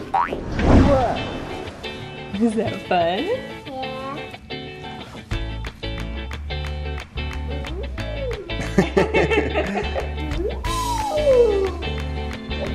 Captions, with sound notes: - Whoa. - Is that fun? - Yeah. - Oooh. (laughing) Ooooh, look how pretty.